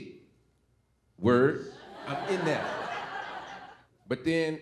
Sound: audience laughing

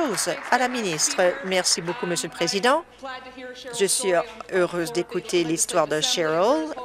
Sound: applause

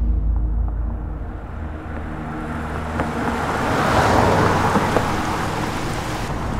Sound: car Passing

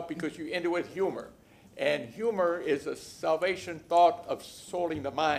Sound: laughter

